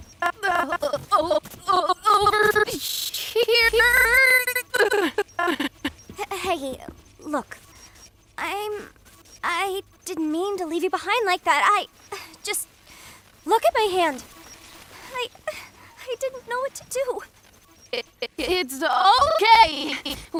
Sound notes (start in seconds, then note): 0.1 voice glitching, stuttering continuously; 4.8 groans; 11.9 sighs; 13.2 whimpers; 17.7 glitching continues